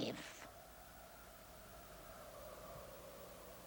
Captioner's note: wind howling